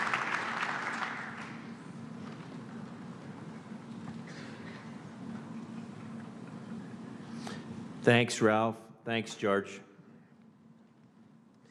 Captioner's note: applause